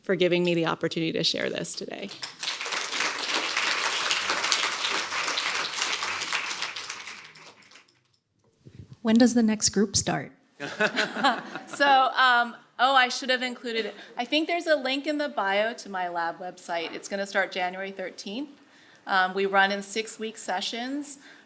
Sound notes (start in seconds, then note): 2.0 applause; 10.6 laughter